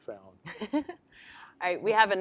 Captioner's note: laughs